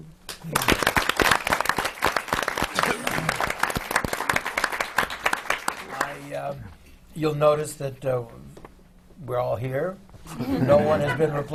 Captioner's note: applause; laughter